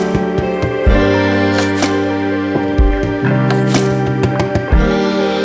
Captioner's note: working sounds